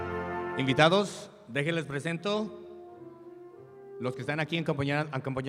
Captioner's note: speaks in Spanish